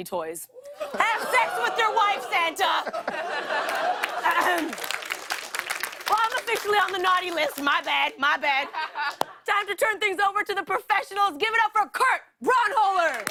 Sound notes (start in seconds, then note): 2.6 laughter; 4.3 clears throat